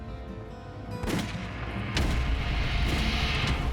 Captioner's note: tense music; gun firing